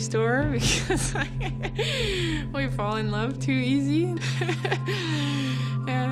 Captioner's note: laughs